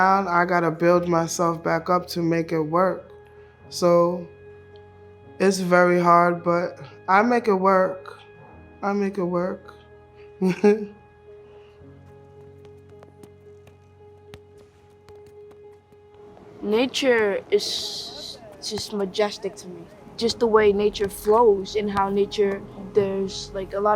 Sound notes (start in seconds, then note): 10.4 chuckles; 11.7 gentle music